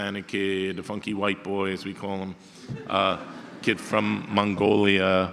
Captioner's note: audience laughter